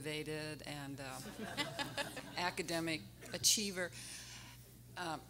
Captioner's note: everyone laughing